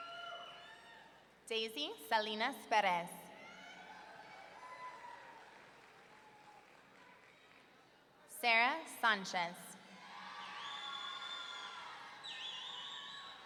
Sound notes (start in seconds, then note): 4.3 audience cheering; 10.0 audience cheering